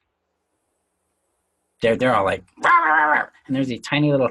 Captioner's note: chihuahua barking sound